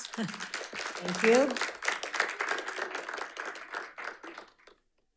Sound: audience applauding

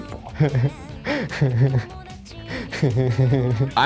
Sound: laughing

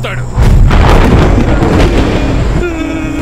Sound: thunder rumbling

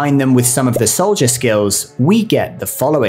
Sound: bubble pops

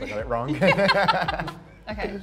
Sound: both laughing

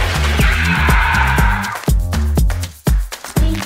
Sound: water flowing; upbeat music; screaming; upbeat music

